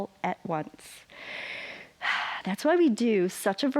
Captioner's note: inhales and exhales